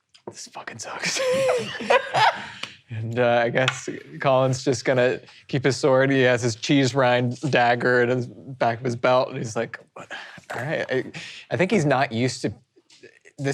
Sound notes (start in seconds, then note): 1.1 laughing